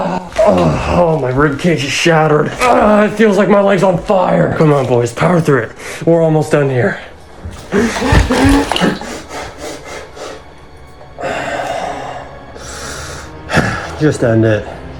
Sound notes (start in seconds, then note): 2.2 groaning; 7.2 footsteps; 7.4 heavy breathing; 7.6 all gasp; 11.1 deep exhale